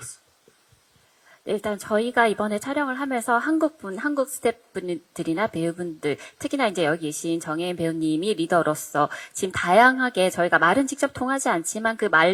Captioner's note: translating in Korean